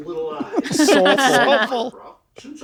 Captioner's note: they laugh